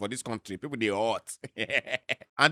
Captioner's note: chuckles